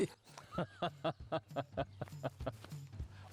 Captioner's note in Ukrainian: сміх